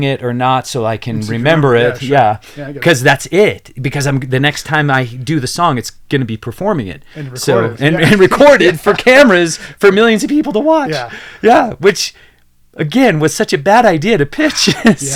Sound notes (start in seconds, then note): 10.8 laughs